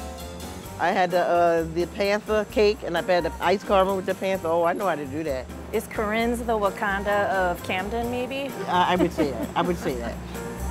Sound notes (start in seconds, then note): 8.5 laughs; 10.4 upbeat music